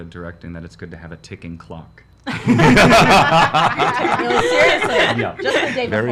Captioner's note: laughs